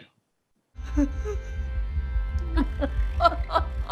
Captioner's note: Joan sobbing